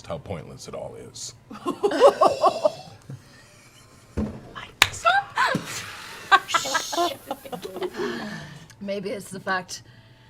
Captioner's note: surprised laughter